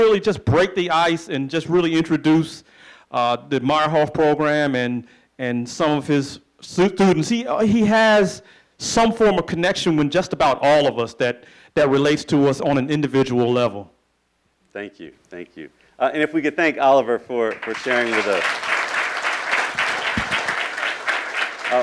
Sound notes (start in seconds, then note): 17.4 applauding